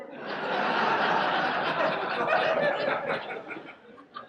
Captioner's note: audience laughs